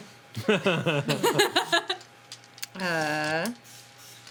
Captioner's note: laughing